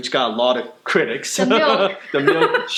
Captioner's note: laughter